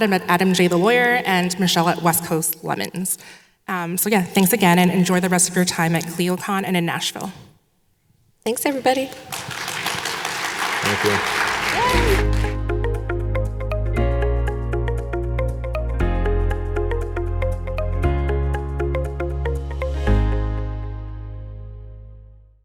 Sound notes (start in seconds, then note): 8.6 audience claps; 11.8 soft upbeat music